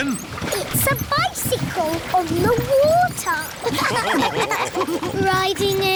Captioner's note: all laughing